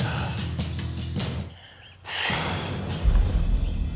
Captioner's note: sighs